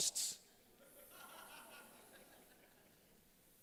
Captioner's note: laughter